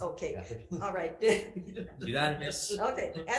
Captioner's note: laughs